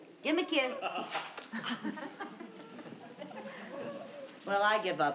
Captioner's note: audience laughing